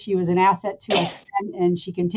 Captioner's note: sneezing